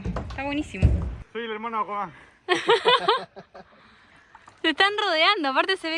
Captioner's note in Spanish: risas